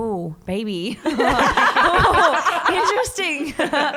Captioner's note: all laugh